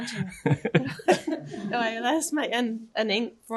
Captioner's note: laughter